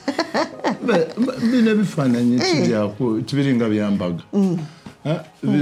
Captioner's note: speaking in Lusoga